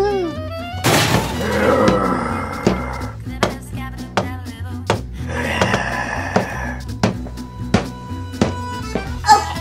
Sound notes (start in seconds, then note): 0.8 crashes; 1.4 monster growls